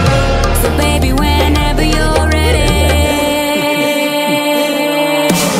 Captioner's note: Bric & Brac Laugh